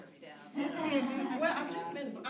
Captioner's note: laughter